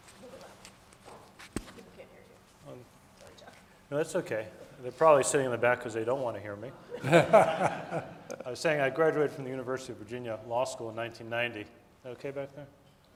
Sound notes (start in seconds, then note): 6.9 audience laughing